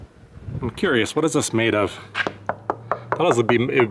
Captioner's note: knocking